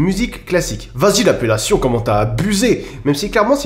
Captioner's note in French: Voix de racaille